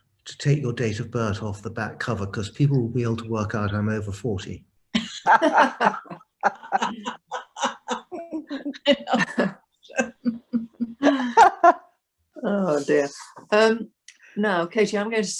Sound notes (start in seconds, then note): 5.0 everyone laughs